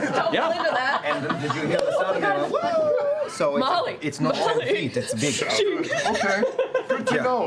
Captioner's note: high-pitched yell